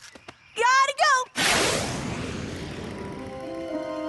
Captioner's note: whoosh!